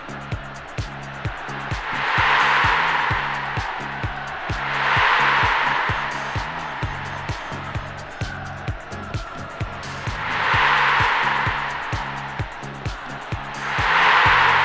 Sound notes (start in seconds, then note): 2.0 crowd roaring; 2.4 upbeat music